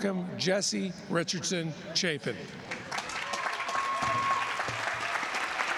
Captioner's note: applause